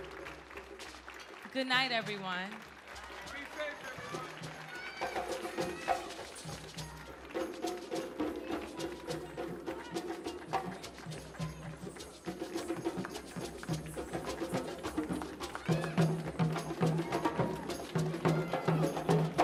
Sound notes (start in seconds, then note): 3.6 people exclaiming; 4.8 audience applauding; 11.9 drum music continues; 16.0 people cheering